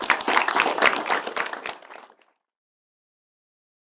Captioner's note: applause